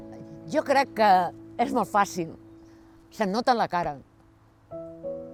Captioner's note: in catalan